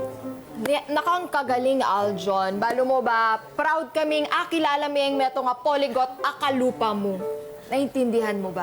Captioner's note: speaks Kapampangan